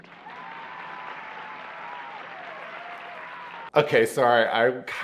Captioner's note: audience cheers